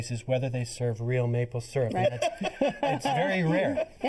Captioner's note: laughter